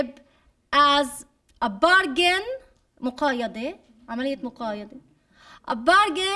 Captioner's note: speaking arabic